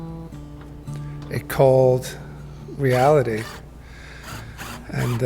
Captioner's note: drill whirring